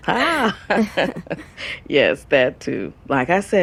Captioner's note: laughing